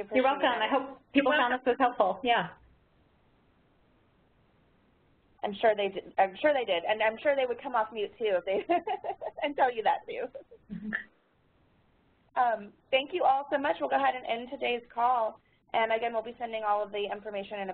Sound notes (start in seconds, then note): 8.5 laughs